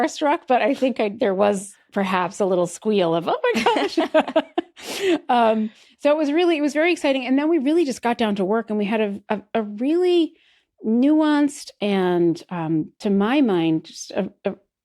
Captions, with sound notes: but I think, like, there was perhaps a little squeal of, "Oh, my gosh." (BOTH LAUGH) So it was really-- it was very exciting. And then we really just got down to work and we had a really nuanced and, to my mind, just a, a--